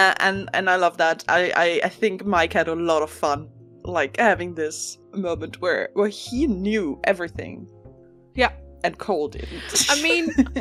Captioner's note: laughs